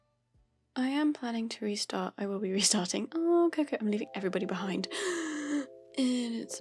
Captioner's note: big gasp